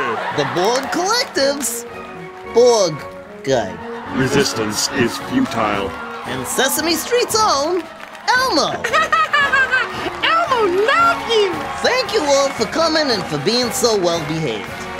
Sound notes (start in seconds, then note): 8.7 laughs